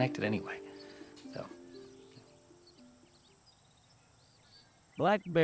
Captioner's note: birds chirping